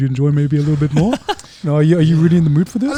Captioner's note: laughing